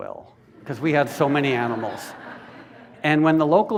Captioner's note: laughter